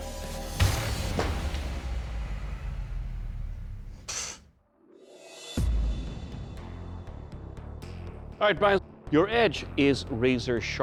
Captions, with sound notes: [scoffs] All right, Bryan, your edge is razor-sharp enough